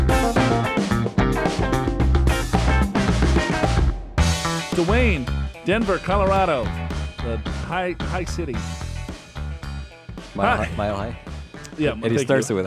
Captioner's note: laughs